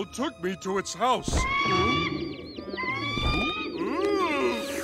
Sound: screeching

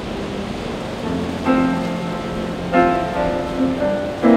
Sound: ocean rushing

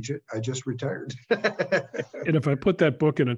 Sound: laugh

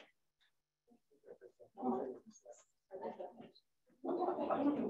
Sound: people mumbling

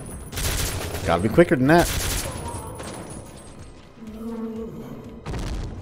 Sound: suppressed Ingram spraying; Big Boi death groan, THUD

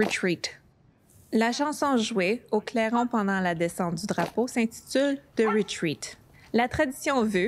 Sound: repeats the message in French

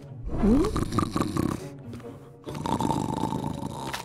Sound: snoring

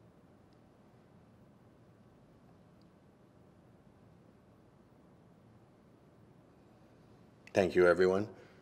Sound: silence

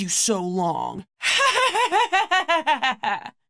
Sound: laughing

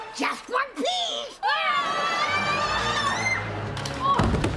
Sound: screaming

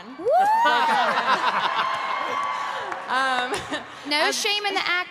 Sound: cheering

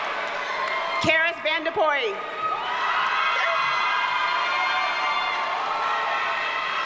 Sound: audience cheers and applauds

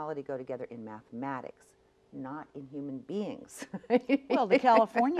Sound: laughs

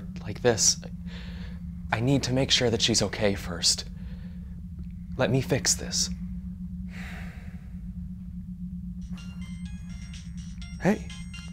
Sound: phone ring tone

